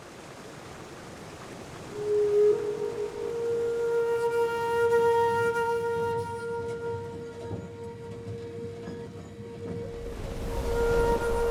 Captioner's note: falling water; meditative flute music